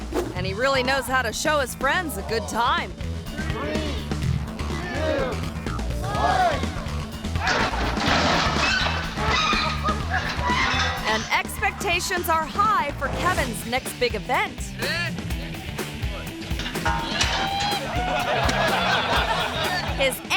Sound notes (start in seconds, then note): 7.3 objects clattering; 7.4 car screeching; 16.8 friends laughing